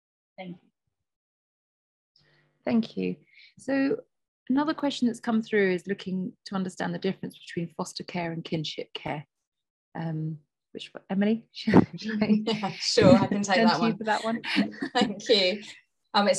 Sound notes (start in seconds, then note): 11.9 chuckles